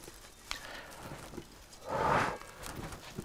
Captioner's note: he blows